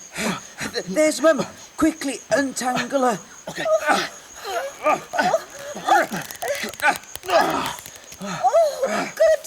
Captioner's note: the sound of pulling and tugging a rope